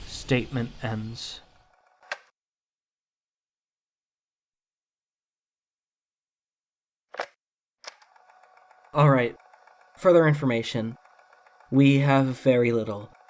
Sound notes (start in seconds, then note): 2.0 tape recorder clicks off; 7.8 tape recorder clicks on